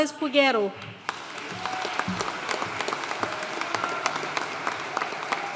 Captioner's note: audience cheering and applauding